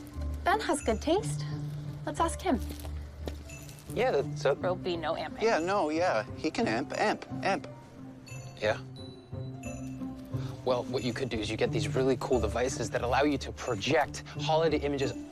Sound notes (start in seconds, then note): none